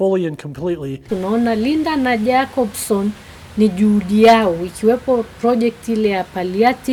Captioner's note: speaking in foreign language